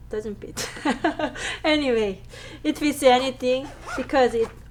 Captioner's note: laughs